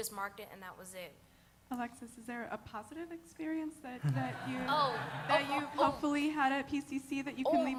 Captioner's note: laughter